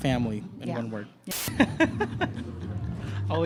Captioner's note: laughs